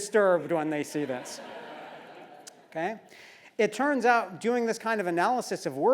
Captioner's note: laugh